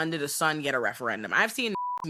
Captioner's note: beep